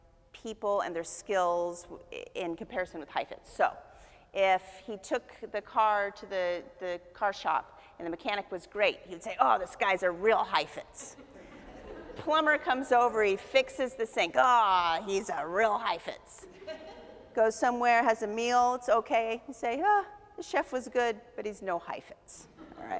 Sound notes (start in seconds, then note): 11.2 audience laughs; 16.5 audience chuckles